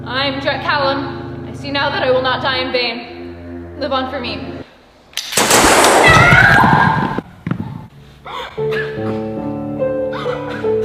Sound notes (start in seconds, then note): 5.2 gunshots